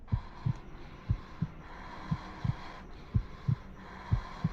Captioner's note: breathing heavily